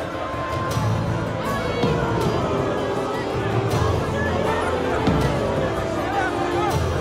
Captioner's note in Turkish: Kalabalık bağrışma sesleri